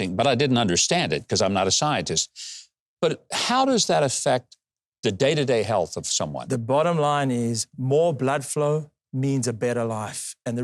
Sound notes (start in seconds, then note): none